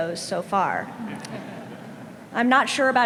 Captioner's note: some audience laughing